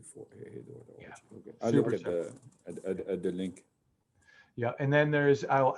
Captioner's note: murmurs